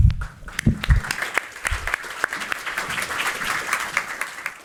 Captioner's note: applause